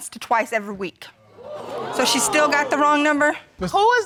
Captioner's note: crowd